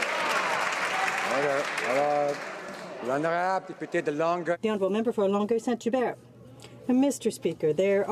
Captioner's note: some Applause